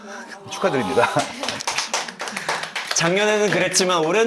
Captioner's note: everybody claps in relief